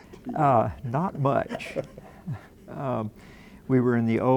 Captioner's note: laughing